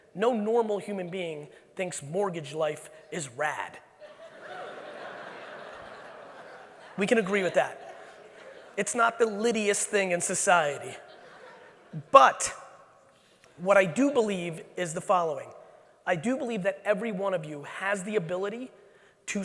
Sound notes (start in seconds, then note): 4.0 audience laughing